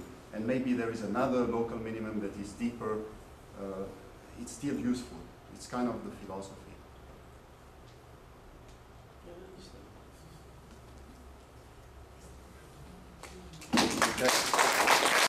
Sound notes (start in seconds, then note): 13.6 applause